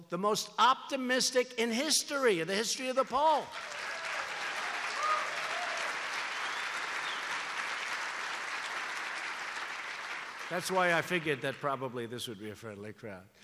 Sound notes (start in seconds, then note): 3.3 applause